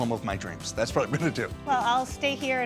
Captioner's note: laughing